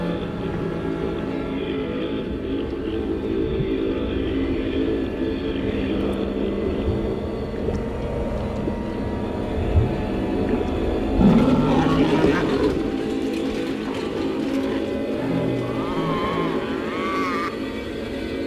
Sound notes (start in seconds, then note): 0.1 ominous music; 7.7 geyser bubbling; 11.0 creature growling